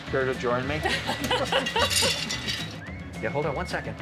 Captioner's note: laughing